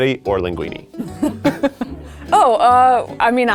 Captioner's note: laughing